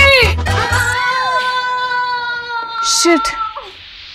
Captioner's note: Aditi screaming